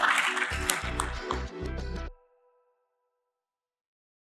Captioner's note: audience applauds; upbeat music